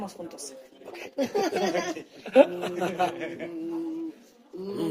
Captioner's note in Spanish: risas